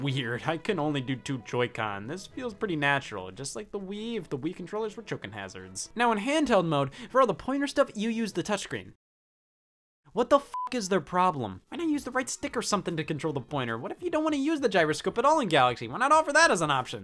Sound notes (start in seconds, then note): 10.4 beep